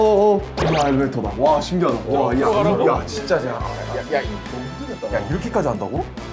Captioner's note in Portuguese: murmurando